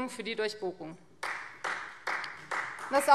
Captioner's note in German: Beifall Freie Demokraten